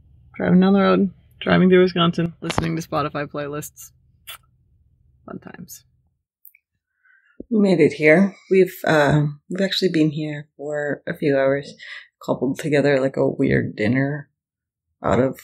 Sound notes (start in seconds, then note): none